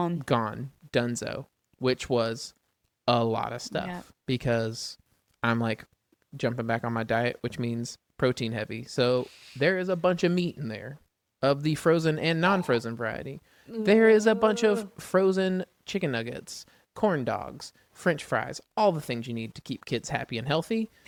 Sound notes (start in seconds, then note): 9.0 laughs